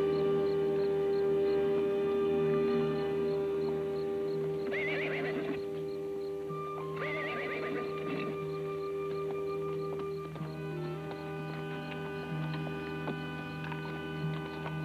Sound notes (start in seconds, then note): 5.1 horse whinnies; 9.1 tense music